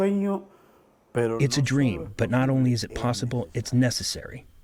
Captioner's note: through translator